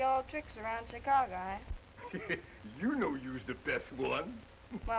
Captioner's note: chuckling